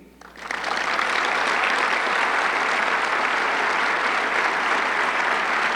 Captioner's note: audience clapping